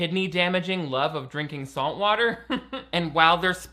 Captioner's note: laughs